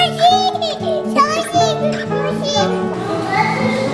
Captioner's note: laughs